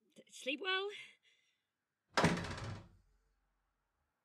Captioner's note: door slams